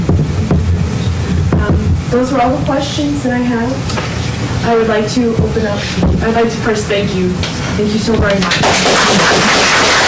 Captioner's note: applause